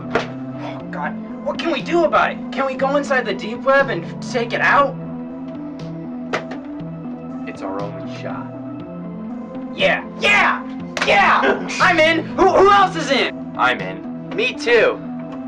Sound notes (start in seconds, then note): 10.9 hands slapping; 11.4 chuckles